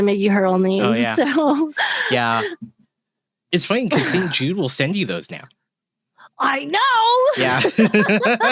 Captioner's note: laughter